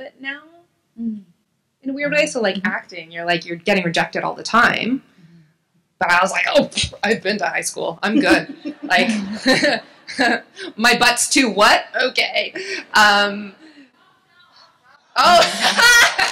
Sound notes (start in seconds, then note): 8.1 laughs; 14.7 laughing